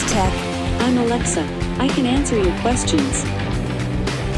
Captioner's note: computer Voice